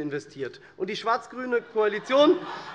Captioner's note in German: Heiterkeit und Beifall SPD, DIE LINKE und vereinzelt Freie Demokraten